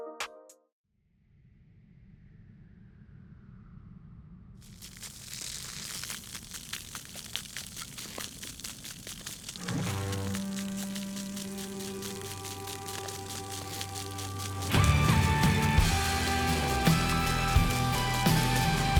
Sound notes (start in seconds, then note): 5.0 water spraying; 9.9 upbeat ambient music